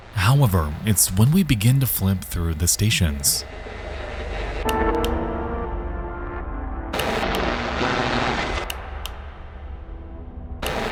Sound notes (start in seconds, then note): 3.8 radio crackling; 3.8 radio stations switching